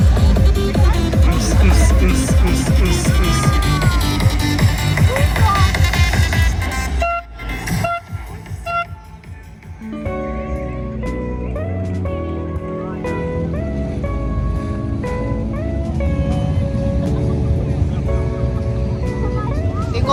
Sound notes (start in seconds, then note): 0.0 background music; 1.4 loud music; 4.9 air horn sound; 4.9 loud music; 10.1 background music